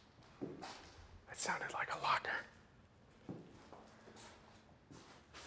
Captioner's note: whispers